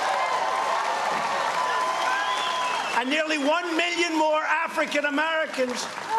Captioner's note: cheers and applause